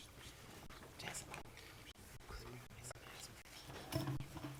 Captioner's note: board chatting quietly